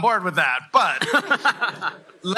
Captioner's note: laughter